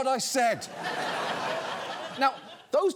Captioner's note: audience laughs